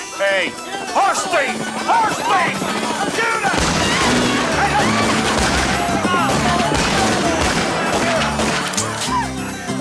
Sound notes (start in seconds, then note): 3.5 gun fires; 4.6 guns fire rapidly